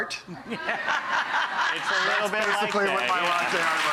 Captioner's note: laughing